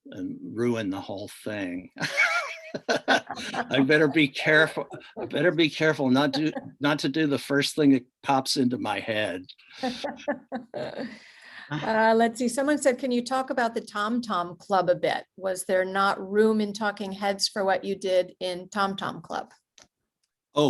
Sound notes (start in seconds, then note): 1.6 laughs; 9.8 laughs